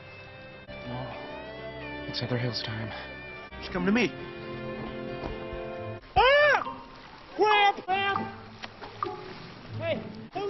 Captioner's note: scream